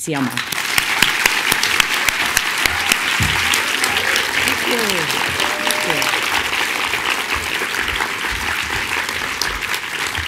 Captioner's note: applause